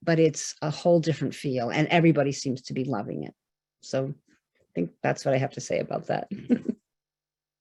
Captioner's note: gentle laughter